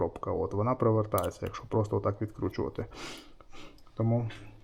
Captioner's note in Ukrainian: сопіння